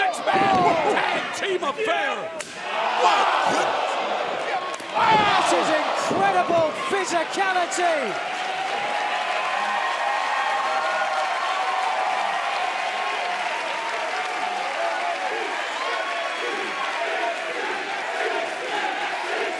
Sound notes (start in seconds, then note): 9.8 cheers and applause; 16.5 fans chanting